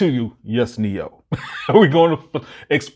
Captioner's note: laughs